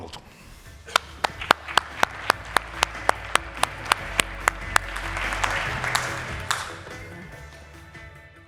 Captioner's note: applause